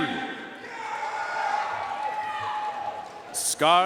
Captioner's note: audience cheering and applauding